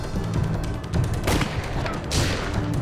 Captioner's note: guns fire; gun fires